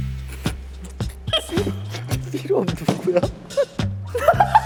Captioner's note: already laughing; laughing